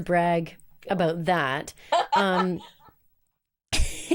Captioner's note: laughs